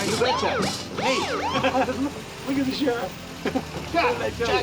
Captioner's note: laughs